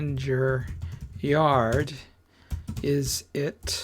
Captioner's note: typing